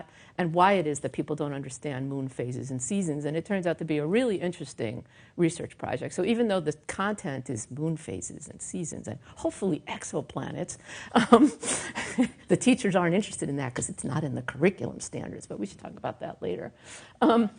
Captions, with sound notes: and why it is that people don't understand moon phases and seasons. And it turns out to be a really interesting research project. So even though the content is moon phases and seasons and hopefully exoplanets... (laughs) ...the teachers aren't interested in that because it's not in the curriculum standards, but we should talk about that later.